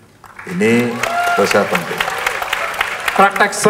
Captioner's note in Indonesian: tepuk tangan